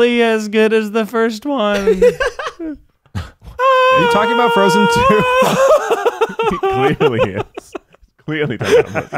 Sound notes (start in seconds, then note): 1.8 laughing; 5.8 laughing